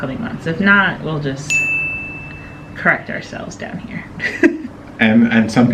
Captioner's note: dinging